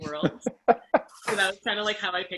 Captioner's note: laughs